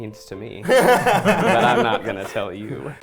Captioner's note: laughing